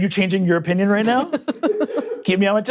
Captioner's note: laughing